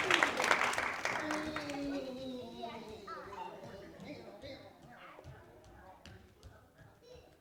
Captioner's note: footsteps echoing